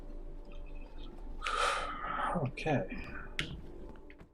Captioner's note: sighing